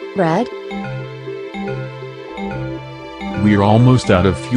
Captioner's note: low fuel gauge warning